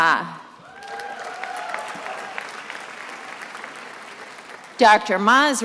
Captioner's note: attendees applauding